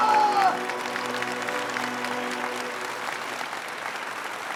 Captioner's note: audience applauding